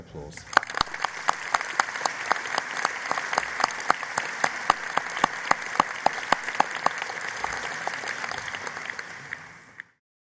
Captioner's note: applause